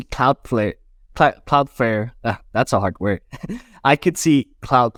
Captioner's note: laughs